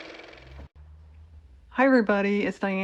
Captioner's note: car motor